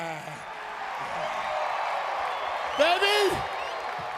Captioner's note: crowd cheering